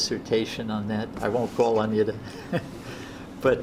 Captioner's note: laughs